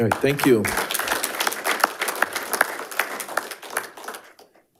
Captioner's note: audience applauding